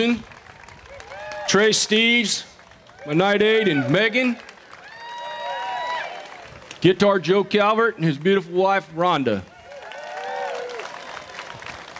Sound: applause

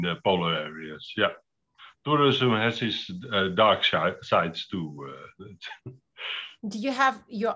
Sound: laughs

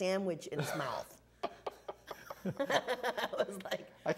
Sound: laughing

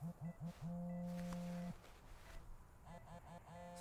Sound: cellphone buzzes

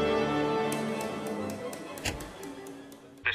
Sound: baton taps

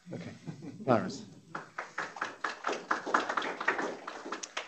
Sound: applause

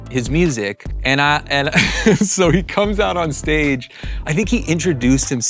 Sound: laughs

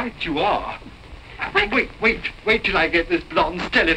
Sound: none

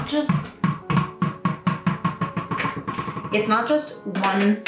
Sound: dog ball bouncing

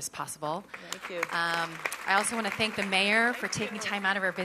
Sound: applause

